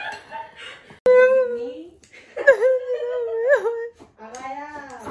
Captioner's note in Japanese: 涙が出たので演技スタート